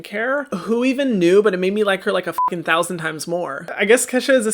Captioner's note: beep